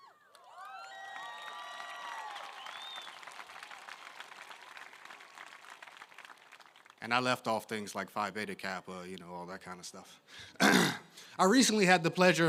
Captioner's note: applause